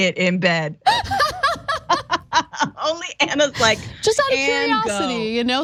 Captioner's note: laugh